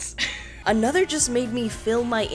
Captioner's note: giggling